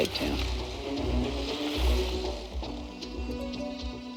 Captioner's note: motorbike passes